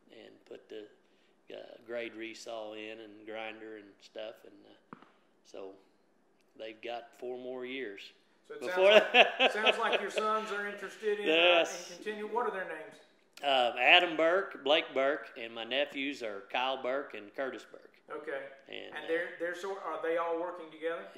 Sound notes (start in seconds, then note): 8.6 laughs